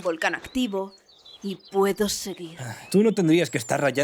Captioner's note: sighs